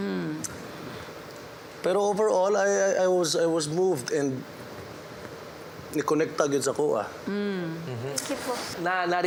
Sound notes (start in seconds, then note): 2.0 in Taglish; 6.2 in Bisaya; 8.2 in Tagalog